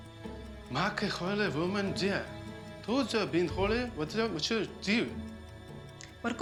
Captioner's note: talking in chinese